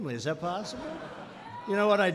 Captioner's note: laughter